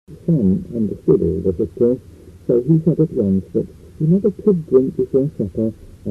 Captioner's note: the same distorted sound